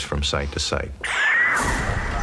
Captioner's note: high frequency wave; whoosh